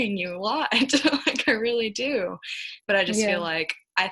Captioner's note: chuckling